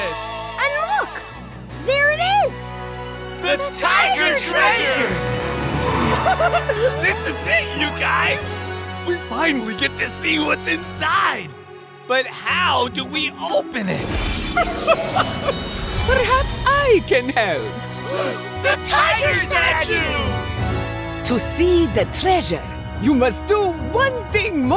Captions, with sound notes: And look, there it is. The tiger treasure! [laughing] This is it, you guys! We finally get to see what's inside. But how do we open it? [laughing] Perhaps I can help. [gasping] The tiger statue! To see the treasure, you must do one thing more,